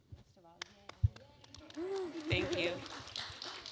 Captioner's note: applause